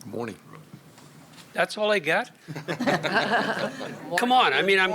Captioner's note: laughter